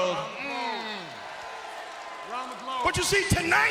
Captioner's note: crowd roars